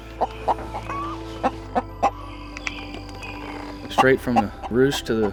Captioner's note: chickens clucking